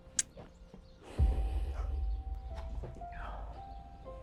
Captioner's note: Arawn gasping; Liz exhales; soft dramatic music